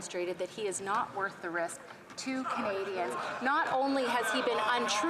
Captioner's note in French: voix de l'interprète